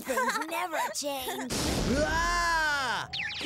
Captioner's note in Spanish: grita